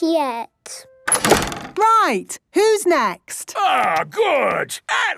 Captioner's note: doors slamming